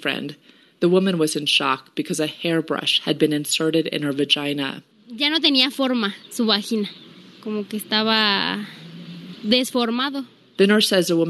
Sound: speaking in Spanish

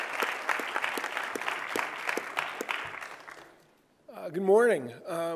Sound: applause

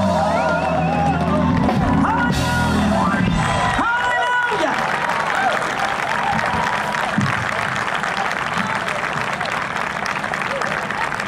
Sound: applause

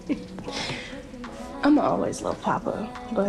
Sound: laughing

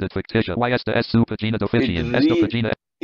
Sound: speaking spanish

